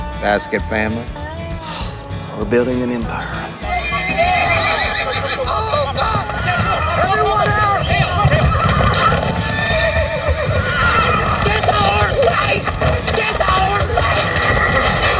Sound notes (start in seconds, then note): 3.6 horse neighing; 6.1 hoofbeats; 9.6 neighing